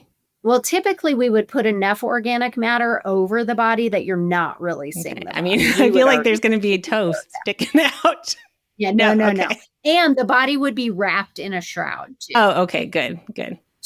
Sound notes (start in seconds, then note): 7.0 laughs; 7.1 chuckles